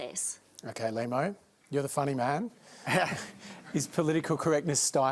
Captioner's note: laughs